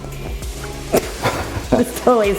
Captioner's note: laughing